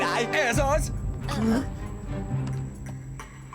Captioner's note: all gasp